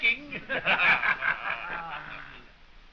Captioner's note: all laughing